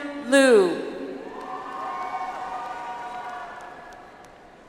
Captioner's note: audience applauds